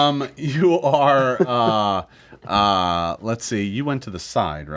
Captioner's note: laughing